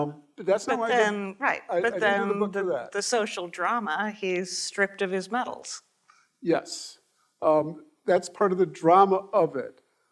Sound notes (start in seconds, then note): none